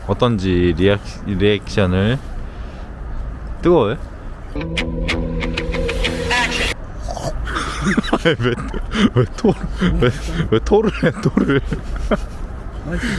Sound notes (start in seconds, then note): 7.0 laughs